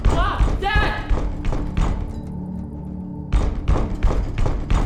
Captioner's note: loud thumping